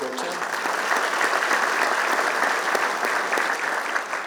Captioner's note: applause